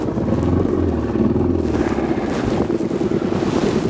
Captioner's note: motor revs